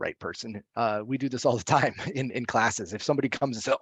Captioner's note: laughs